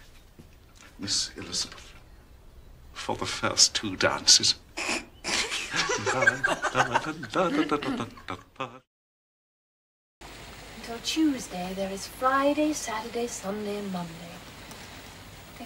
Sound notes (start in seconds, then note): 5.2 girls laugh